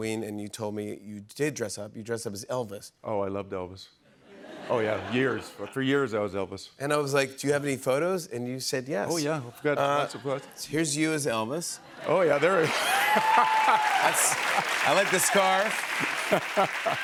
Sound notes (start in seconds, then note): 11.9 laughter